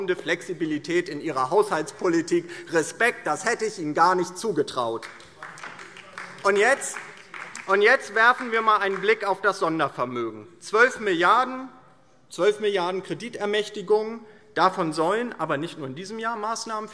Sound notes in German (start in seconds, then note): 4.8 Beifall DIE LINKE